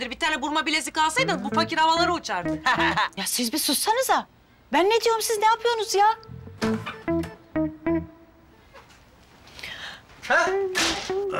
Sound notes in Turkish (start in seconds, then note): 6.6 Kapı açıldı